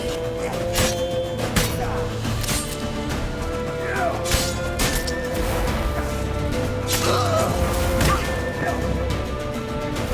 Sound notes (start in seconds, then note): 7.7 scream